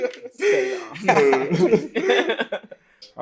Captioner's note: laughter